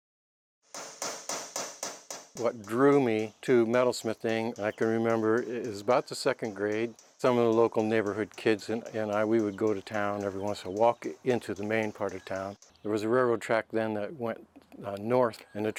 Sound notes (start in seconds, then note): 0.7 tool taps